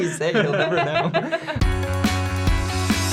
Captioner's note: laughing; upbeat music